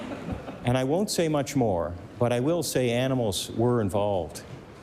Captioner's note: laughter